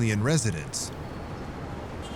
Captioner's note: traffic and cars honking